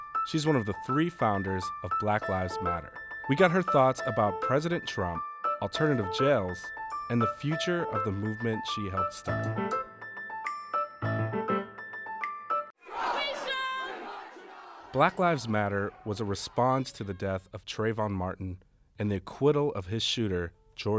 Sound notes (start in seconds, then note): 12.8 crowd chanting